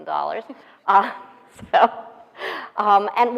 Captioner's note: laughing